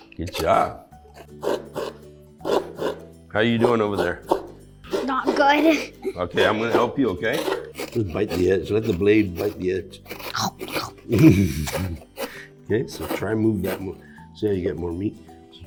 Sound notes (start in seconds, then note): 9.9 makes chomping sounds; 11.0 laughs